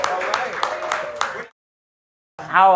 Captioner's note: applause